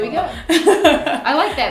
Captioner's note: laughs